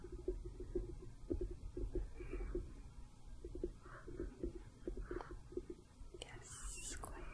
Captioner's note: light tapping